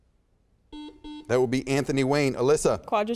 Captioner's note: buzzer beeps